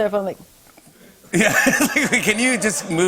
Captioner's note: laughter